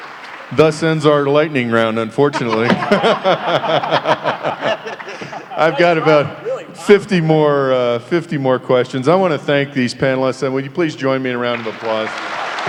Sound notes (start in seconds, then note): 2.2 laughter; 11.4 applause